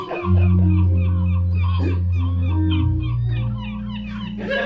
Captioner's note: foghorn, seagulls